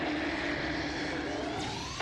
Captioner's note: roars